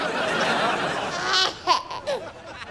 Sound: giggling

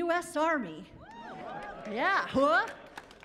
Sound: cheering

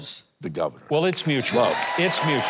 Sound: audience cheering

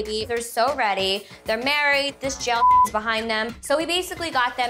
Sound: beep

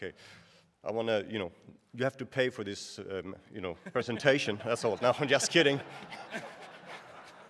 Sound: laughter

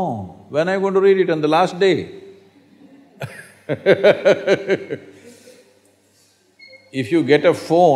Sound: laughs

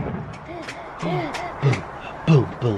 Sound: gasps

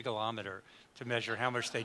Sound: audience laughs

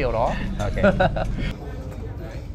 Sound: laughters

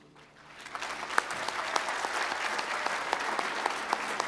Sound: applause

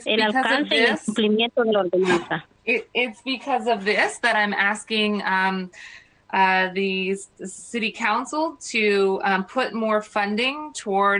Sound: speaking foreign language

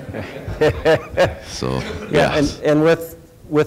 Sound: laughing

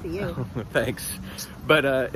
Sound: laughs

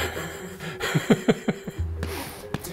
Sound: laughs

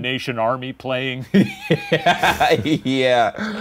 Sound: laughing

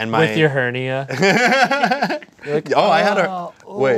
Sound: laughing

